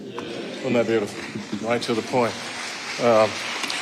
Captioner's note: audience applauding